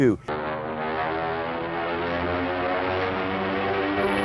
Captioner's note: roaring plane engines